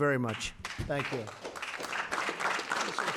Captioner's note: applause